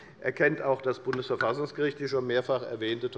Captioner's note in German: none